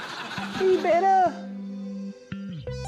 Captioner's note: tiny voice